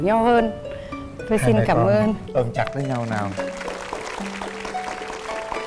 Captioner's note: applause